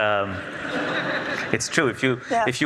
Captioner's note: audience laughs